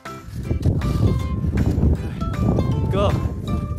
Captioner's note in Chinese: 風聲